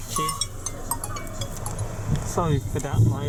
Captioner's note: my phone rings